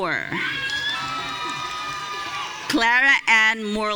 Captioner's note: audience cheering